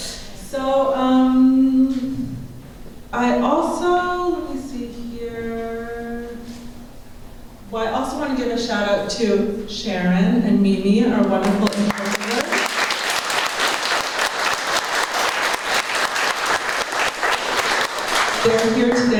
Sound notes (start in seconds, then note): 16.2 applause